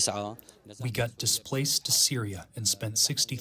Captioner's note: through translator